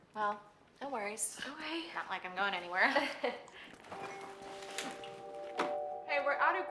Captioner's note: Sharon laughs